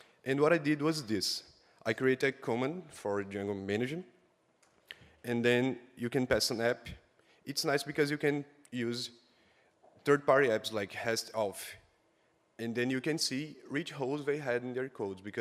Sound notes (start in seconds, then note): none